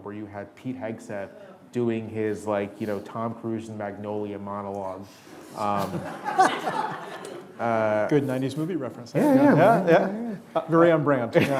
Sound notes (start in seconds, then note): 5.8 audience laughing